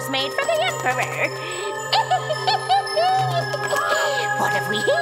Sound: witch cackles

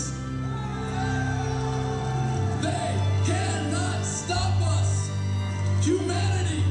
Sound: crowd cheers

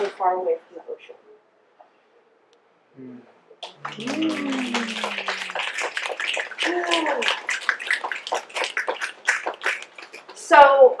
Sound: audience mmms, claps and snaps

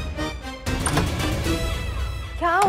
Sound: door opens

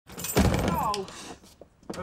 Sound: chain jingle; thud

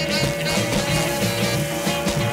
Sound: sizzling

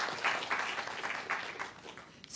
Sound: applause

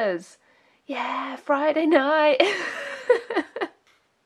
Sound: laughs

